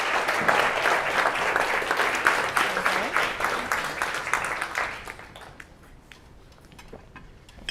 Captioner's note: applause